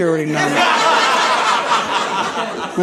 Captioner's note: audience laughing